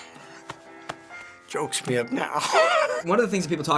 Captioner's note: chuckles; voice cracking